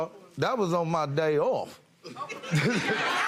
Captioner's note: chuckles